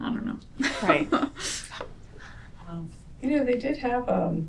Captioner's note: laughter